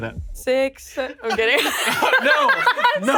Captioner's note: all laughing